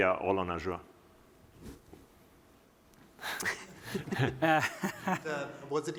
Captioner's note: laughter